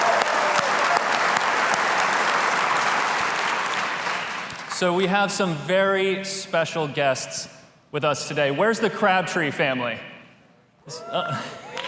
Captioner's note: applause